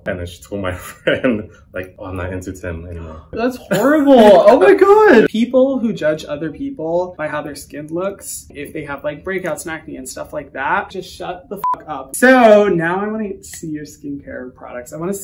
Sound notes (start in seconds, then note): 3.1 laughs; 11.6 beep